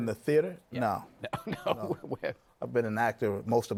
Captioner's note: laughing